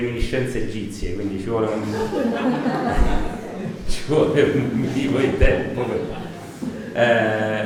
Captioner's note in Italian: risata